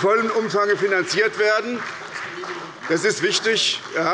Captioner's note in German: Beifall bei der SPD